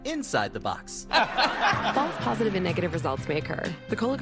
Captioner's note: audience: laugh track